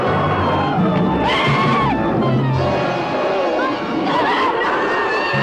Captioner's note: screaming